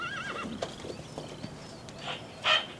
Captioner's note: neighing